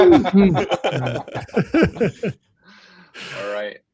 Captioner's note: laughter